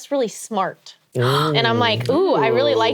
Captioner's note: gasps